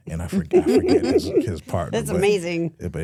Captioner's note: hosts laughing